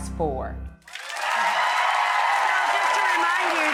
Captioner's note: audience cheers